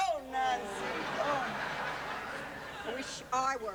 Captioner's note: laughter